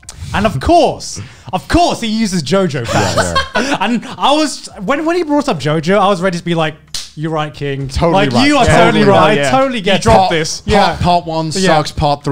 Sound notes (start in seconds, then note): 2.8 laughs; 6.8 claps hands